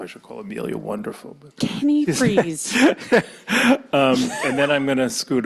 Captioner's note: laughs